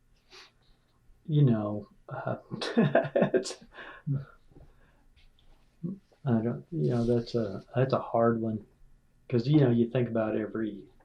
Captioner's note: laughter